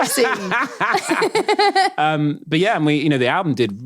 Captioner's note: laughing